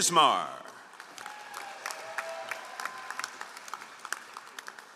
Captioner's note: all applauding